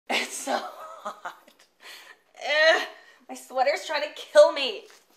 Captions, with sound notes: - It's so hot (laughs). Eugh, my sweater's trying to kill me.